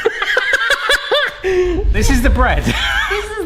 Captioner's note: both laughing